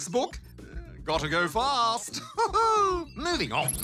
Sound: laughs

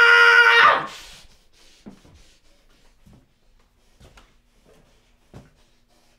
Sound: screaming; panting

